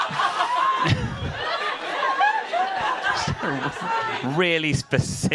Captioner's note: audience laughing hysterically